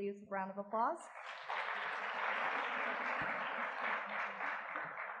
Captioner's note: audience clapping